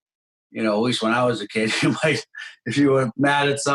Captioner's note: laughs